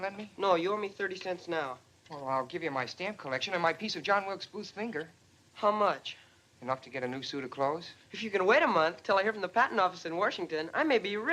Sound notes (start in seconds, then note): none